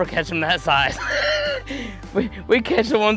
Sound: laughter

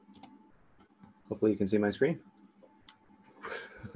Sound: laughs

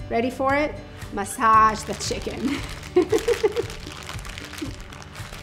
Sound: laughing

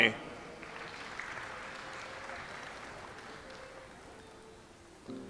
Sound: audience applauds

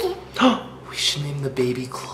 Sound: gasps

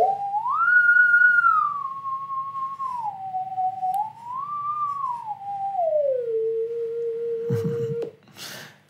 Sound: sine wave / UFO noises

